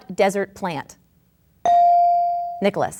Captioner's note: bell dings